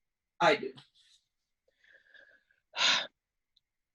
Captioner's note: sighs